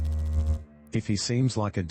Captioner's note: electrical noise